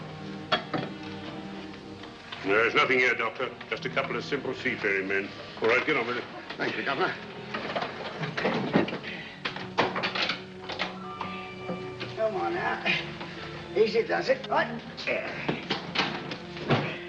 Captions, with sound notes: - There is nothing here, Doctor. Just a couple of simple, seafaring men. All right, get on with it. - Thank you Governor. (chest lid clatters shut) - Come on now...easy does it. Alright...there.